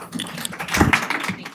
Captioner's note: applause